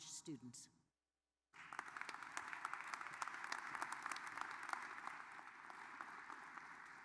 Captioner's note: applause